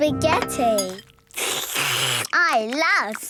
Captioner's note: slurping